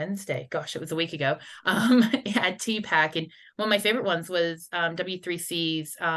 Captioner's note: laughs